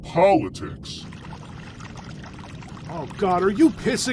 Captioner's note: sound of running water